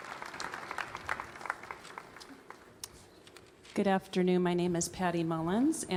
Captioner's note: applause